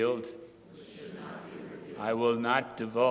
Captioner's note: crowd repeating